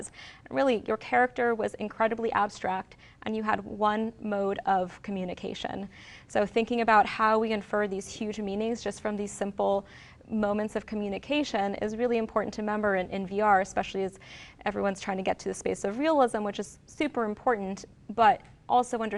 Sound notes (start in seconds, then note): none